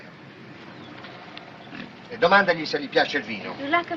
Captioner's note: speaking in italian